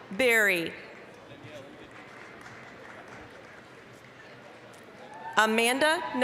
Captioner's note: applause